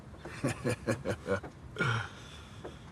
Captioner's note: he chuckles, inhales